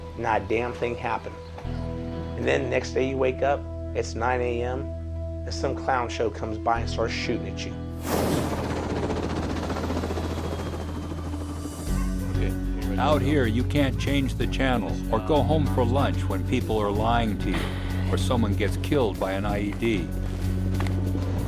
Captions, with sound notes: not a damn thing happen. And then the next day you wake up, it's nine AM, and some clown show comes by and starts shooting at you. [Sound of helicopter rotors] - [Voiceover] Out here you can't change the channel or go home for lunch when people are lying to you or someone gets killed by an IED.